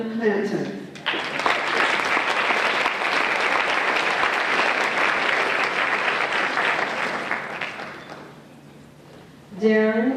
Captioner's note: applause